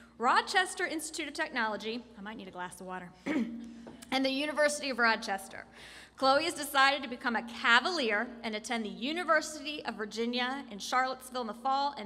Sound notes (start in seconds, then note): 3.2 clears throat